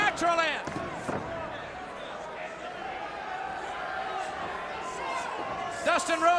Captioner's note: crowd chatter